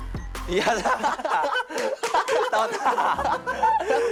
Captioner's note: bursts out in laughter as soon as they see it